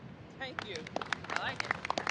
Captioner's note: applause